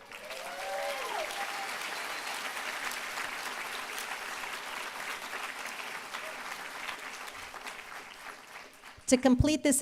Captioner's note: applause